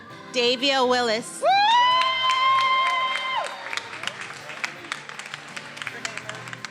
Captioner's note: attendees applauding and cheering